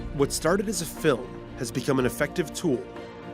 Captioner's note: voiceover